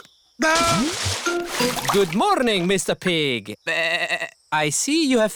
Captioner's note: bleats